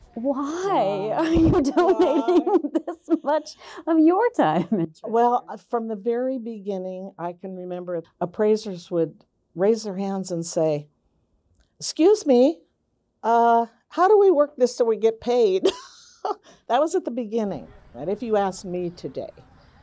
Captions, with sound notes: Why are you doing this much - Why, why? - on your time and treasure? - Well, from the very beginning, I can remember appraisers would raise their hands and say, "'Scuse me, how do we work this so we get paid?" (laughs) That was at the beginning, but if you asked me today,